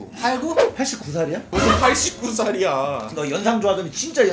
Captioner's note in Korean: ㅋㅋ푸핳하ㅎ핳하ㅋㅋㅋ